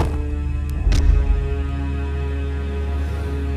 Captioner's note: thudding